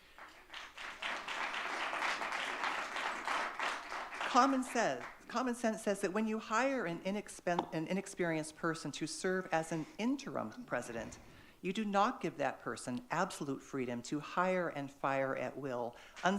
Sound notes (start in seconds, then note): 0.0 audience clapping